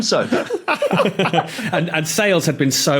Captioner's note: group laughing